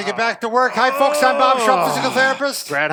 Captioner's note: groans